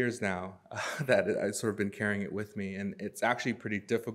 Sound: chuckles

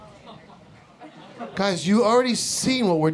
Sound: audience murmuring

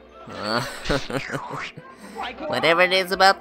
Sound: chuckles

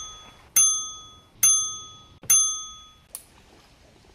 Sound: ding

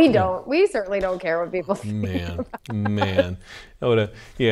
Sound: laughs

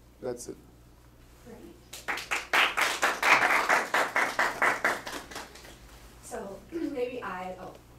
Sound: audience applause

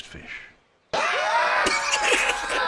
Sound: screaming; laughs

